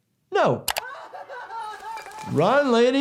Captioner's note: victim 3 cries